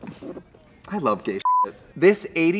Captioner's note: beep